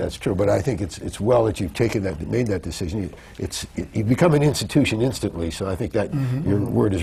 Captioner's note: laughs